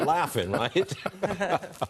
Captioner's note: laughter